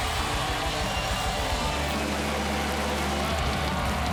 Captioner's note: cheers and applause